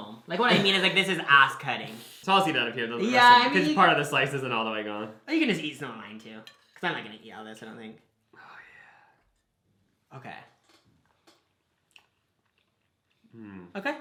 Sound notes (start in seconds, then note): 8.9 whispers; 10.4 both chewing